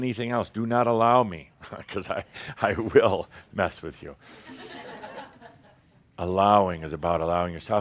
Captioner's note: some chuckles